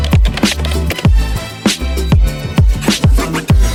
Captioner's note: keyboard clicking; upbeat music